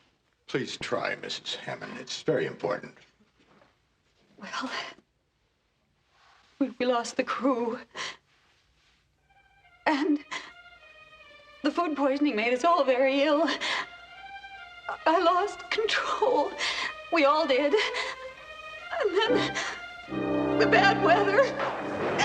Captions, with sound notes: Please try, Mrs. Hammen. It's very important. Well... ...we lost the crew... ...and... ...the food poisoning made us all very ill. [SOBBING] I lost control. We all did. And then the bad weather...